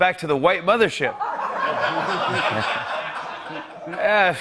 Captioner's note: laughter